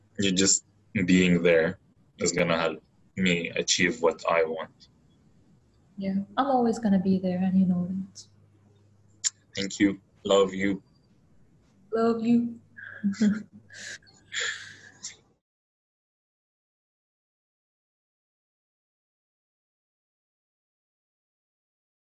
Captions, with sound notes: You just being there is gonna help me achieve what I want. - Yeah, I'm always gonna be there and you know it. - Thank you, love you. - Love you. (both chuckle)